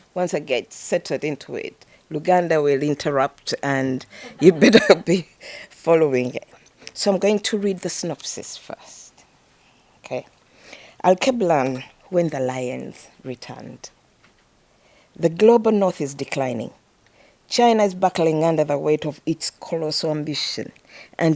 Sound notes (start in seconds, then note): 4.0 chuckles